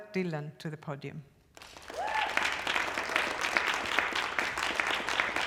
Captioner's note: applause, cheering